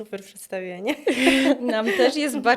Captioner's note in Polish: śmiech